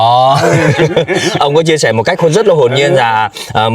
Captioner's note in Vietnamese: tiếng cười